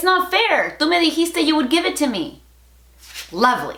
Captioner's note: Spanglish